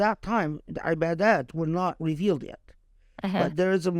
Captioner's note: speaking Arabic